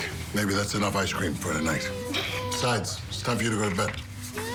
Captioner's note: laughs